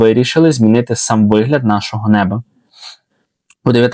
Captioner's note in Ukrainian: сопіння